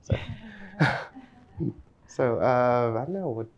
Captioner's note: laughs